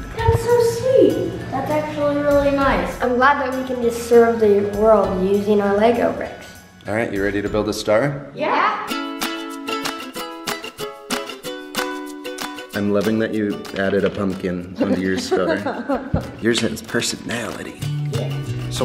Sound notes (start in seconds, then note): 9.2 bright upbeat music; 14.8 laughter